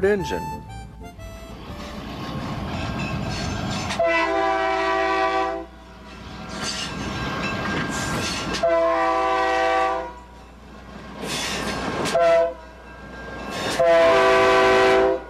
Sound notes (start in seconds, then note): 0.1 energetic music; 3.7 train hoots